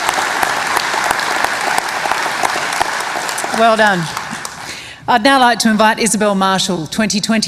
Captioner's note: cheering and applause